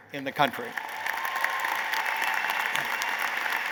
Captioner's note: applause